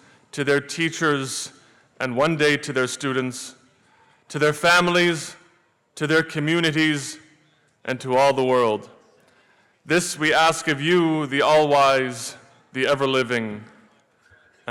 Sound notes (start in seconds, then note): none